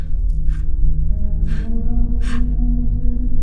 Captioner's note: Maddy whimpers